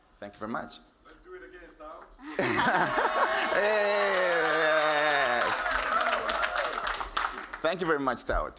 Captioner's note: cheers and Applause